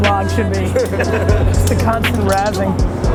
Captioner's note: laughter